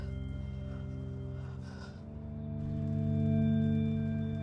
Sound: Jane panting

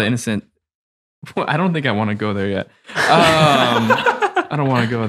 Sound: laughs happily

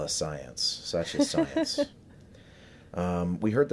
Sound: laughs

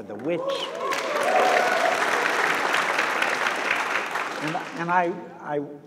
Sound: audience applauds

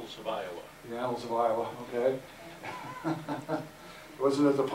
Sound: chuckles

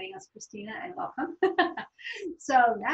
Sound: laughs

